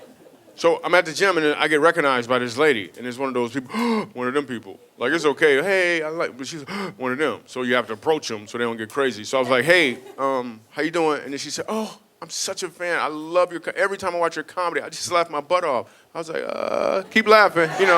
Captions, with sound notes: So I'm at the gym and I get recognized by this lady and it's one of those (gasps), one of them people. It's okay, "Hey, I like," but she's (gasp) when of them, so you have to approach them so they don't get crazy. So I was like, "Hey, how you doin'?" And then she said, "Oh, I'm such a fan. "Every time I watch your comedy I just laugh my butt off." I was like, "Uh, keep laughing."